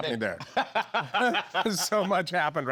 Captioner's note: laughing